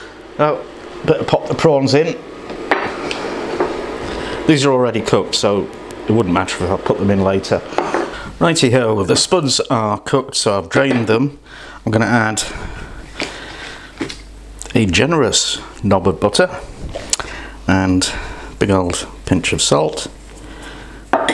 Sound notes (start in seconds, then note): none